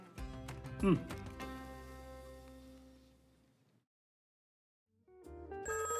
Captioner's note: phone ringing